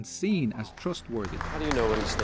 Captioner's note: clapping